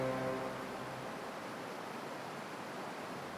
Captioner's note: water roars